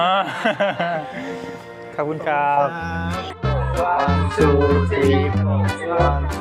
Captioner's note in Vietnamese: tiếng cười